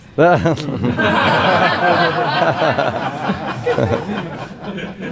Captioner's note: laughing